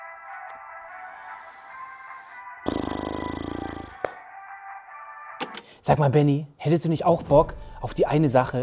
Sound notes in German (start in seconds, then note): 2.6 Schnaufen